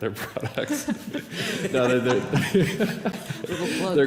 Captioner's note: laughter